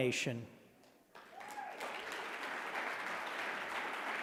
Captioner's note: audience clapping